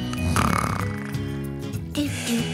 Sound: snoring loudly; soft music

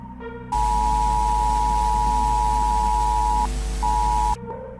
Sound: interference

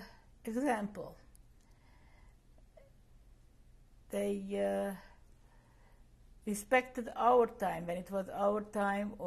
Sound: pauses for 3 seconds

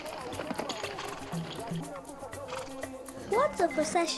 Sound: horses snorting

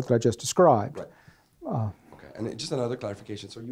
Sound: voiceover

